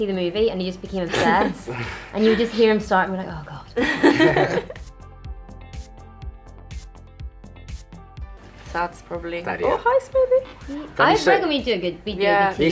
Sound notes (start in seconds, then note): 3.8 everybody laughs; 4.9 upbeat music